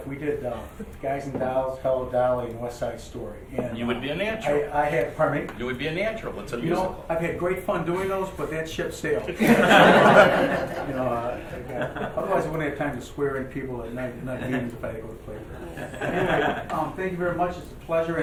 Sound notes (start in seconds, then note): 9.4 laughing; 14.5 murmuring